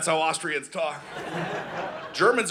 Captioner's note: audience laughing